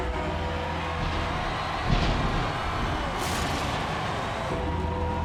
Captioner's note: thunder strikes